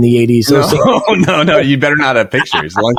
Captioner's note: laughing